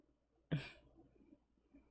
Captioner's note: chuckles